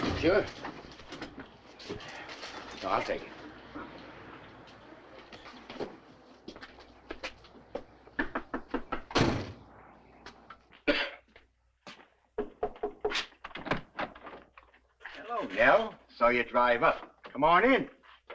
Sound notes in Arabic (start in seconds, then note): 8.2 طرقات على المفاصل; 8.4 صوت باب السيارة; 10.8 هاري يسعل